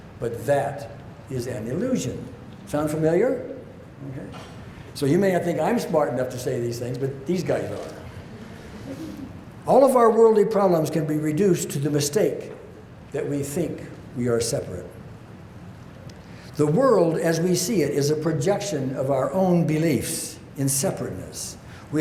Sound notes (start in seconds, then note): 8.4 audience chuckles